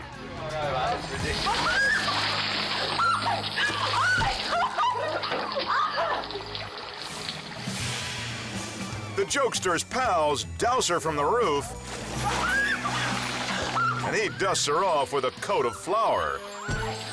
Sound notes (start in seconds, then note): 2.6 water splashes; 2.8 girlfriend screams; 6.2 water dripping; 8.2 suspenseful music; 16.9 whimsical music